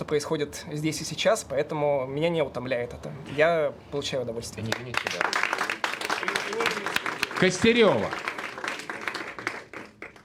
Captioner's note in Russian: аплодисменты